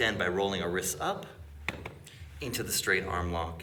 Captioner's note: gentle tapping